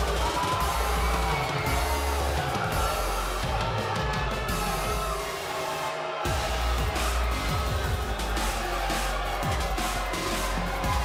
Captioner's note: cheers & boos